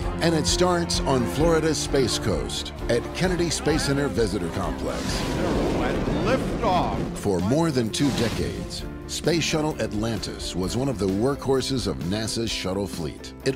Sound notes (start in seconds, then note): 4.8 whoosh